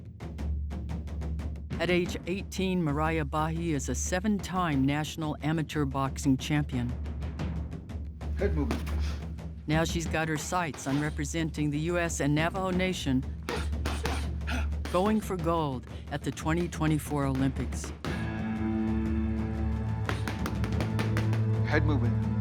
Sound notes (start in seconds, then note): 13.4 both grunting and exhaling